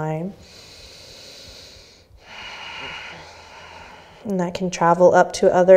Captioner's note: deep breathing